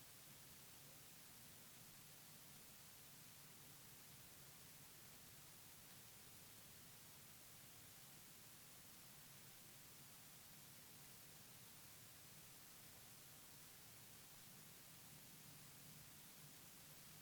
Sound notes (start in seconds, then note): none